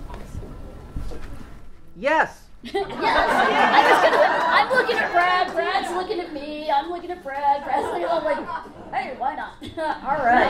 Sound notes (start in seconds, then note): 2.6 audience laughs